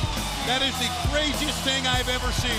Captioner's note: bell ringing